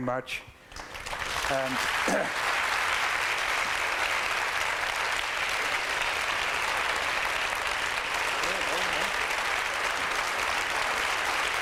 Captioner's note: applause